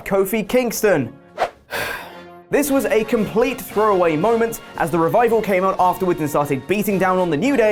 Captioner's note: sigh